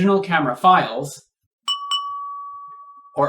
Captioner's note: ding!